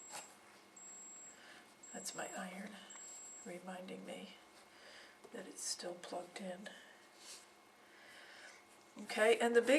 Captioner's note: beeping sound